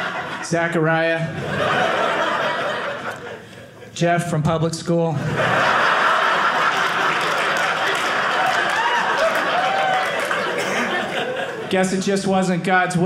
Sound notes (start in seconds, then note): 5.2 audience laughing; 7.9 audience cheering